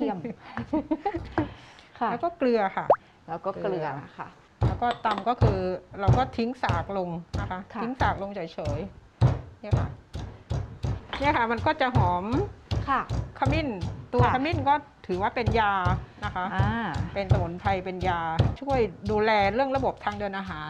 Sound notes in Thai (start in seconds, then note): 0.2 เสียงหัวเราะ; 9.2 เสียงโขลก